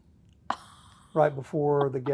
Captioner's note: laughing